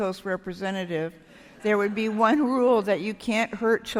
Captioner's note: laughter